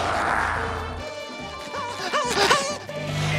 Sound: panting

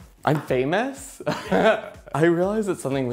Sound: giggles

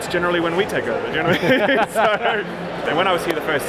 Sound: laughing

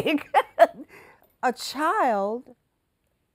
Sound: laughing

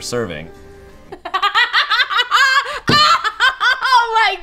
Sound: hysterically laughs

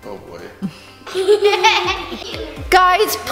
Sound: laughing

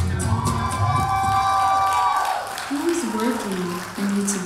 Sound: audience cheering

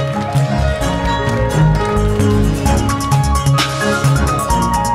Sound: audience applauding

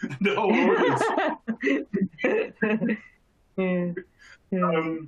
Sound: chuckles

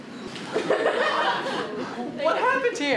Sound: audience laughter

